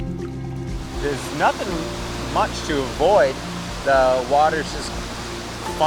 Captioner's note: rushing water